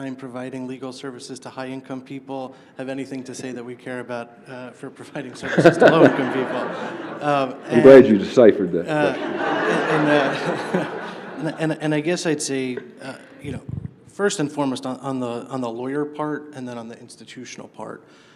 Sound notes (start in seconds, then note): 8.9 laughter; 11.4 laughs